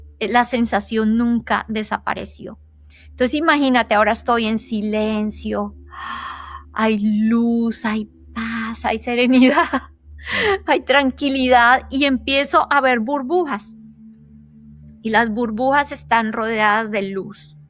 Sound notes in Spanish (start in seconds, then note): 9.3 risas